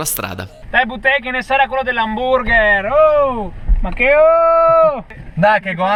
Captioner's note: Said in a classic Verona's dialect